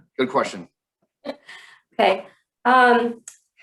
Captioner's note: chuckles